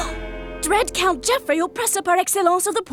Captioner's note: gasping